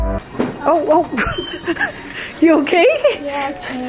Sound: laughs

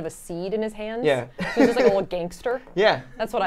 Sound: laughs

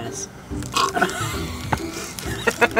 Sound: gagging; laughing

